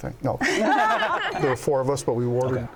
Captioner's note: laughter